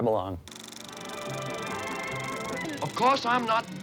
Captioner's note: film projector clicking